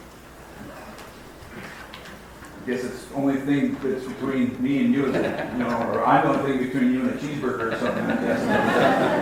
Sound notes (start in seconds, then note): 5.0 laughs